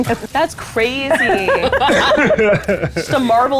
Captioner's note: players laughing